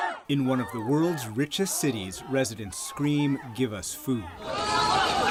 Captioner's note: shouting in mandarin